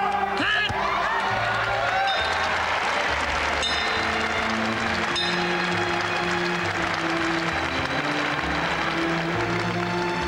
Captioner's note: applause